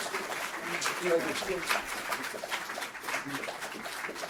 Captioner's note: audience applauding